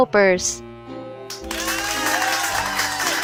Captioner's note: applause